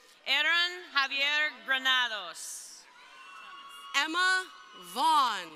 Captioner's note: crowd cheering